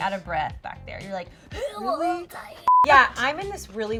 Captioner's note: gasping; beeping